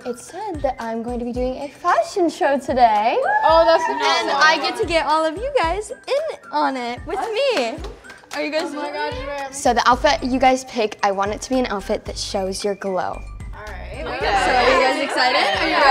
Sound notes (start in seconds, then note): 3.2 exclaiming; 14.0 group chattering